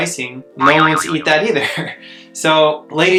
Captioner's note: spring boings